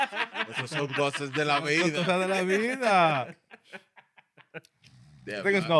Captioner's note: laughter; speaking Spanish